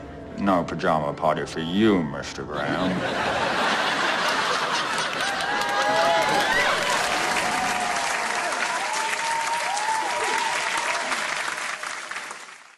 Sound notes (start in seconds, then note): 2.4 laugh track; 4.5 cheering; 7.5 applause